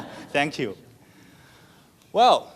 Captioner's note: laughs